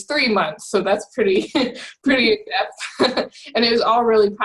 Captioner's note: laughs